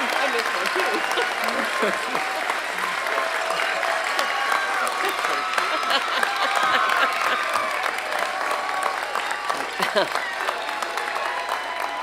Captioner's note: applause and cheering